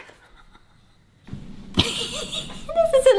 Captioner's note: awkward laughter